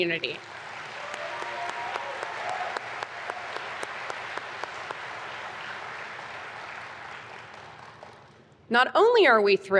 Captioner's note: applause